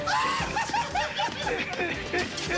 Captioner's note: m laughing drunkenly